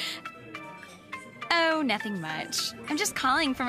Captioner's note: ringtone